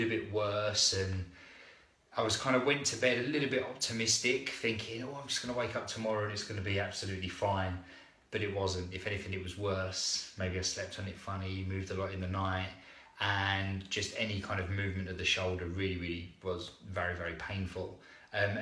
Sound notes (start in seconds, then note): none